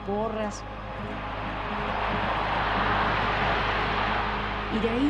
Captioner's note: crowd cheers